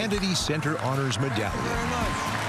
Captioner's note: cheering and applause